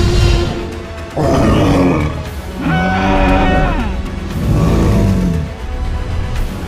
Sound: Triceratops growls

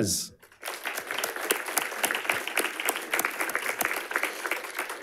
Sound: audience applauding

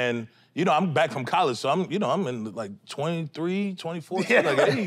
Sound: chuckles

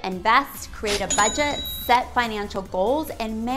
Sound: cash register chiming

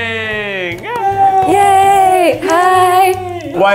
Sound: applause

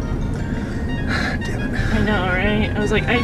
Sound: inhales

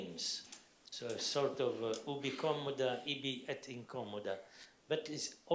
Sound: speaking foreign language

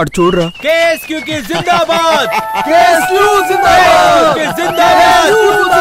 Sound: laughs

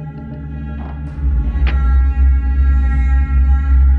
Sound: door latch opens

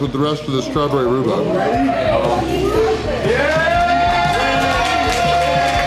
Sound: crowd cheering

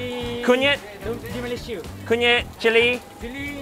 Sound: speaks in foreign language; chef speaks in a foreign language; speaks in foreign language

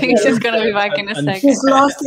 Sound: all chattering indistinctly

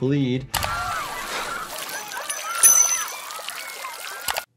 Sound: water sputters

